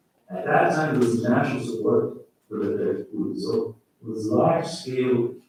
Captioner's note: faintly speaking